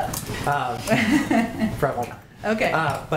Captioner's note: laughter